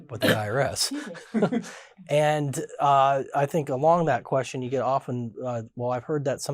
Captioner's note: laughs